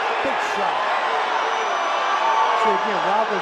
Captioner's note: cheers